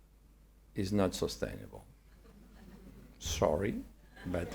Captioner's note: attendees chuckle; attendees laugh